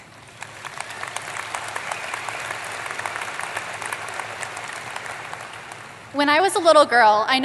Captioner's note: applause